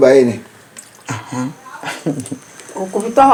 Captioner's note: stammers; laughs; exclaims